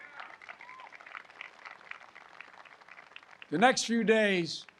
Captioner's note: applause